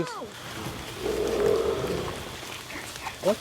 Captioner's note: loud growl